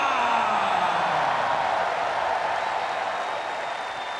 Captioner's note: audience cheers